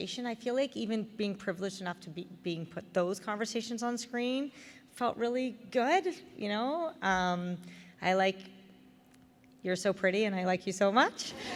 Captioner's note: laughter